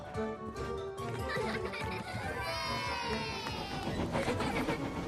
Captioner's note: children Laugh & Cheer